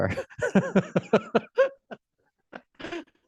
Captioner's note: laughter